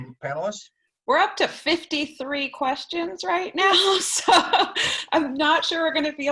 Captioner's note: laughter